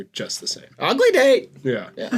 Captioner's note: parrot voice; laughter